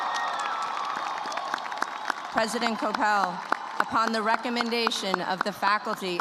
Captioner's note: cheers and applause